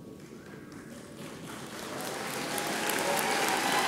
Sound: audience applauds

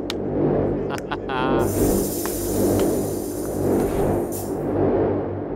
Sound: laughs

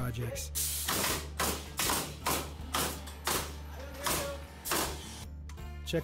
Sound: tools buzzing and thudding

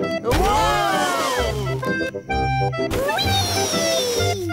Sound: none

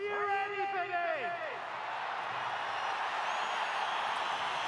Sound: crowd cheering

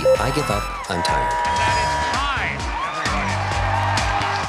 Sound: cheers and applause

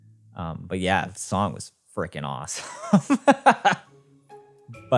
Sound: laughs

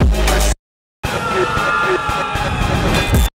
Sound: war scream

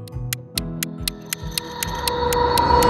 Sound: clock ticking; dramatic music

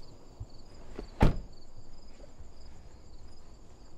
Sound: car door shuts

